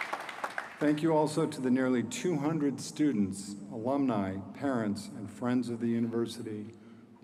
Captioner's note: applause